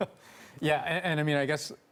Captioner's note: laughter